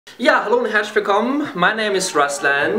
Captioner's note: in German